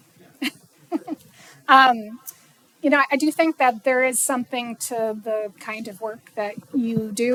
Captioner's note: laughing